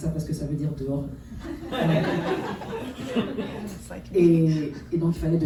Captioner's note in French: rires